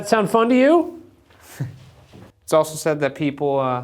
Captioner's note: chuckles